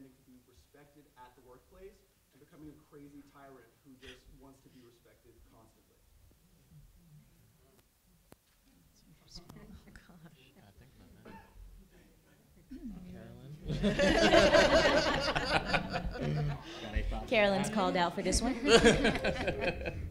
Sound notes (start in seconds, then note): 13.6 laughter